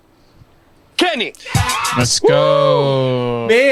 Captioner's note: crowd cheers